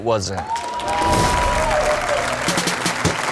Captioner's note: crowd applauds and cheers; upbeat music